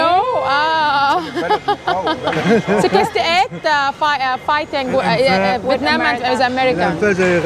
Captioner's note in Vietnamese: Tiếng cười